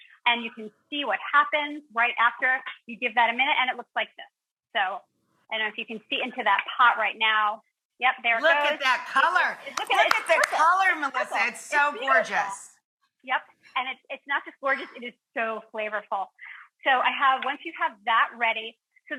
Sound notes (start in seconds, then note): 9.3 claps hands